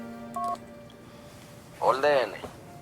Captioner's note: cell phone sound